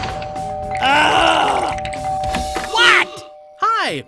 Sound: doorbell rings; groaning

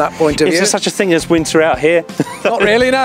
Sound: chuckles

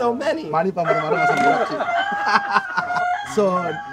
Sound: laughing

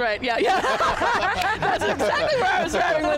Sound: all laugh

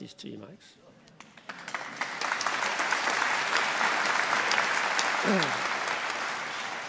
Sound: applause

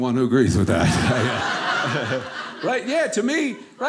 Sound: audience laughing

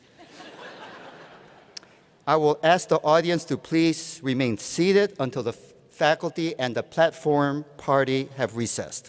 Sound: laughter

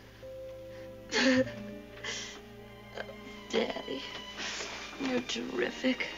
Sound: chuckles

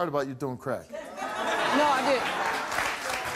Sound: audience laughs

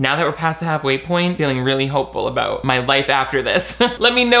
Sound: laughs

